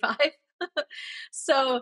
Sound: laughs

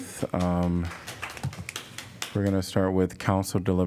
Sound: applause

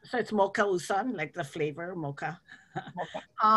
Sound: laughs

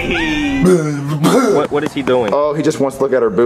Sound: Rosalina screaming; Jeffy blabbering; evil laughter

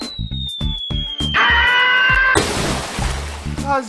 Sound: Glue screams

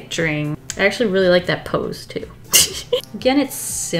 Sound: laughs

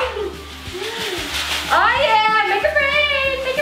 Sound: beads falling

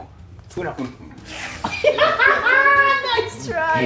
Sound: laugh

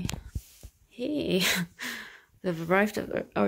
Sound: chuckles

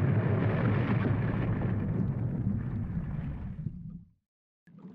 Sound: big boom; deep ocean noises increasing anxiety

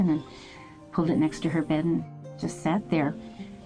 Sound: none

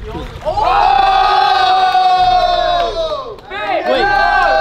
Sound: group cheering

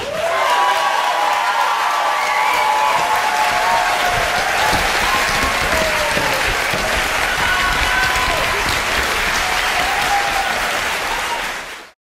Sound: applause

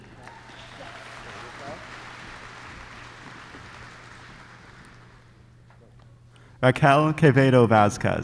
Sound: applause

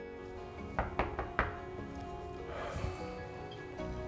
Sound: door knocks

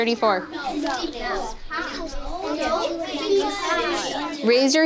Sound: class chattering

